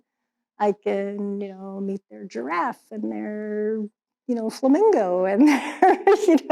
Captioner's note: laughs